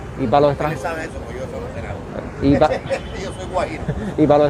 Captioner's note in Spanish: risas